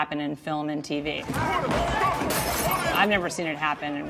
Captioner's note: glass shatters